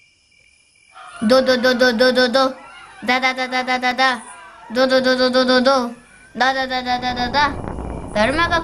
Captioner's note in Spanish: sonido de escapar corriendo